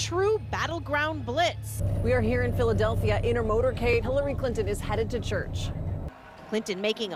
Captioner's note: cheers and applause